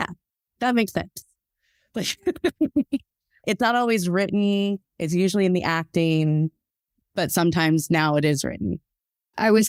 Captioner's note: laughs